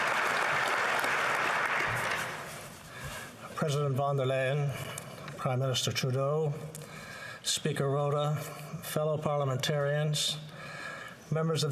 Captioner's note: applause